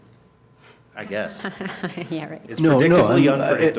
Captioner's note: laughter